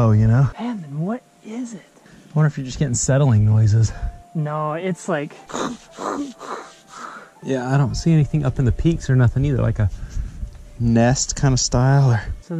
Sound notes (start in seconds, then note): 5.5 growling